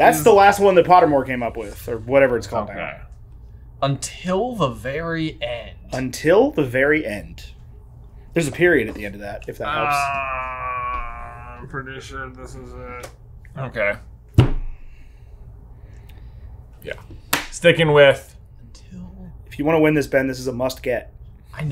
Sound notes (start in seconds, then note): 9.6 groans